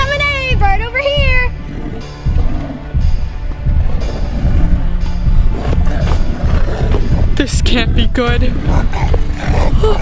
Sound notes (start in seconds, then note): 3.6 animal growling; 5.7 suspenseful music; 8.4 animal grunting